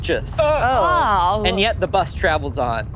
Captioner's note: group sighs